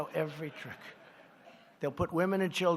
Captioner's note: laughter